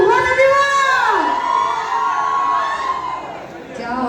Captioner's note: cheering